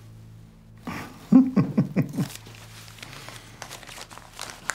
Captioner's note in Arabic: ضحكة مكتومة